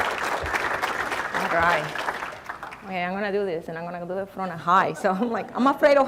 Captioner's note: applause